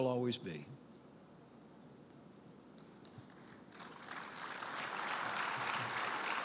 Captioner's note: applause